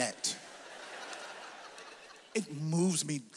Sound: audience laughs

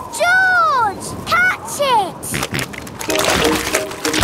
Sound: snorting

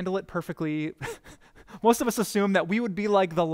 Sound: pastor: Laughter

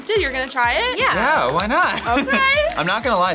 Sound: laughs

